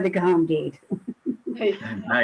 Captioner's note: laughing loudly